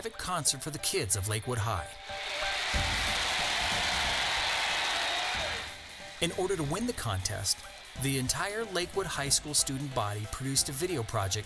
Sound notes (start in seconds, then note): 1.9 crowd cheering